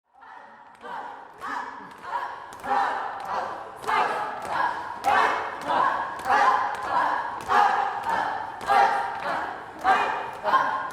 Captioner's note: people repeating the word up and sounds of jumping